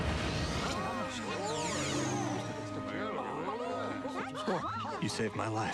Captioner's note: people gasping and talking